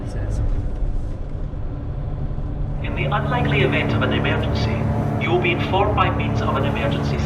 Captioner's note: tannoy